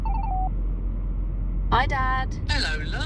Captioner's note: phone beeping